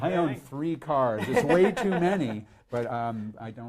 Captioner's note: laughs